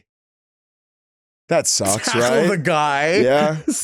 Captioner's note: laughing